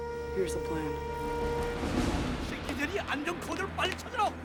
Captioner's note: Korean